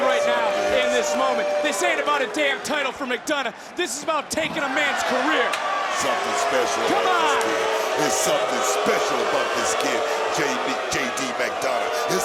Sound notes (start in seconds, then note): 8.2 crowd boos